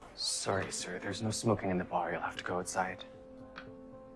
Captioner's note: voiceover